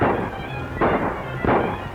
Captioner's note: gunshot